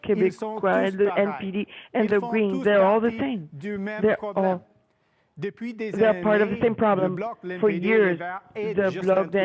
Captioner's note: speaking French